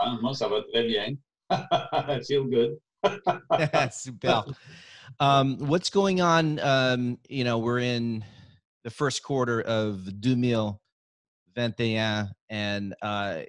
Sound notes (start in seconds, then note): 0.1 speaking in French; 3.0 laughing; 9.8 speaking in French